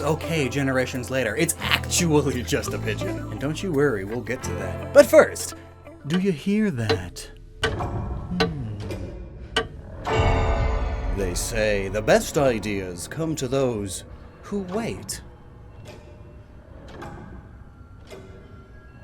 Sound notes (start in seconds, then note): 11.2 loud clock noises